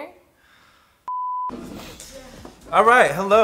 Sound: sighs; beep

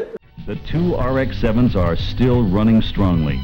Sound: engine sounds

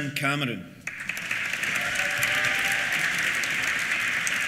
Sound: applause; cheers

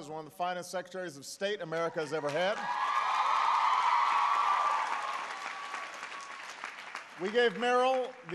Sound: applause

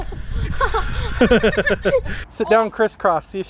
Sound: laughing

